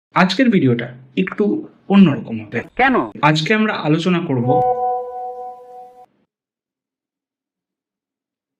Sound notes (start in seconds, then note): 4.4 phone Beeps